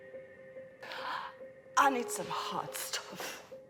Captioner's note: sighs